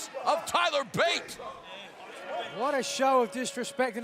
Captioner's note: crowd cheering